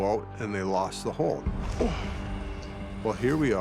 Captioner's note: grunts